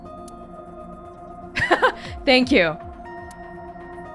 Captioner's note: chuckles